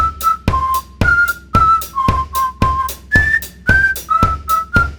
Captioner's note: whistling